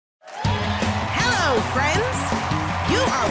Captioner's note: cheering and applause